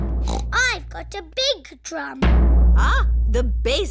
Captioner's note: snorts